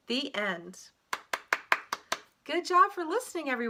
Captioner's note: clap, clap, clap